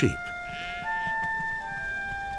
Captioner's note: sheep bleat